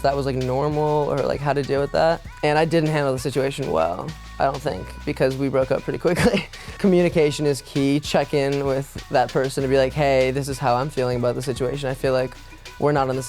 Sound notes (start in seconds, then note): 6.1 laughs